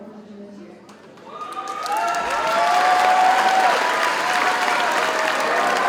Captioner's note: audience cheers and applauds